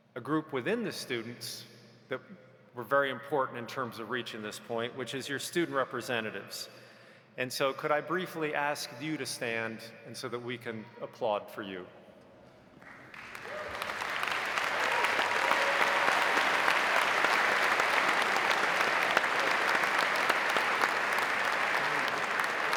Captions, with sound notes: a group within the students that were very important in terms of reaching this point which is your student representatives and so could I briefly ask you to stand and so that we can applaud for you. (audience applauding) (audience cheering)